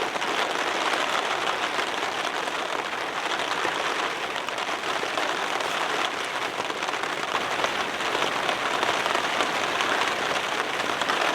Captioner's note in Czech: zvuky deště